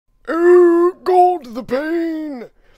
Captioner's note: old Man Voice